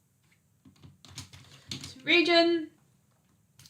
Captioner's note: keyboard clicks